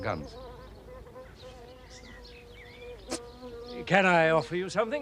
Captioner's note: insects buzzing